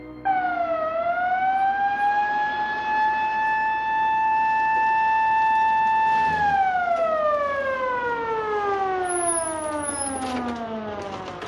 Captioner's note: siren